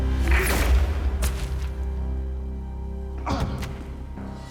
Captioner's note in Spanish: Disparo